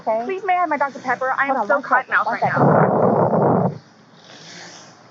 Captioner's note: wind against microphone